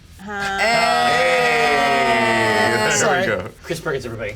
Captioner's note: all cheer